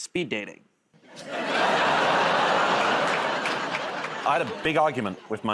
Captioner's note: laughter